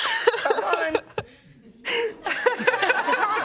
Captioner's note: laughter